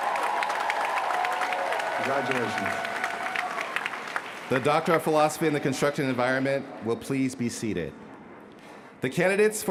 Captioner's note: cheers & applause